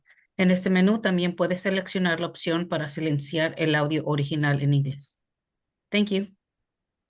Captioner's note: speaking foreign language